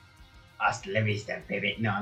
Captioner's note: Arnold Schwarzeneggar voice